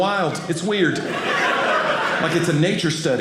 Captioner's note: audience laughing